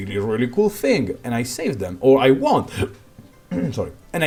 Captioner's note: hiccup; hrm hrm